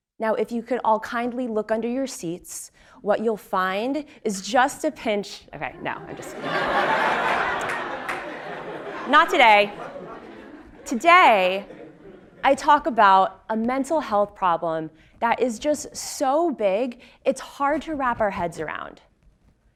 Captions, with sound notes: Now, if you could all kindly look under your seats, what you'll find is just a pinch, okay no. >> [LAUGH] >> Not today, today I talk about a mental health problem that is just so big, it's hard to wrap our heads around 8 million